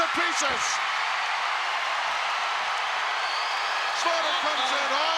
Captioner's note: crowd cheering